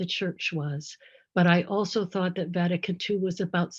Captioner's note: speaks in foreign language